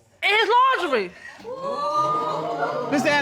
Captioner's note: audience exclaiming